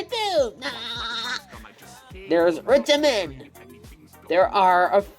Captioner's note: Imitates SpongeBob laugh